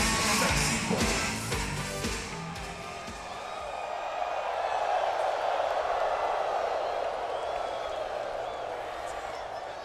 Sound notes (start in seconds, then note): 3.9 crowd cheering